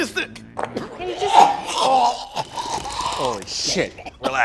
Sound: vomit noises

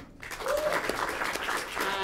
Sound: applause

